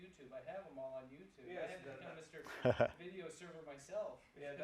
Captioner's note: laugh